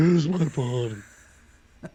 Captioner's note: laughs